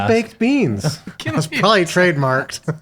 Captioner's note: people laughing